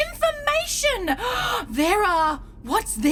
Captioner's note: Aurelia GASPS theatrically